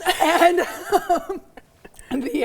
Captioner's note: laughing